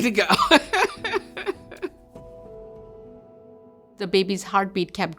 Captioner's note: laughs